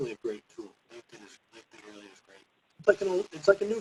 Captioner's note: faintly speaking